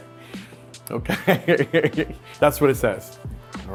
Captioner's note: laughs